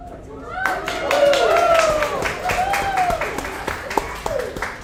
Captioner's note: audience applauds